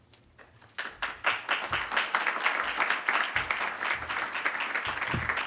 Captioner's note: audience applauding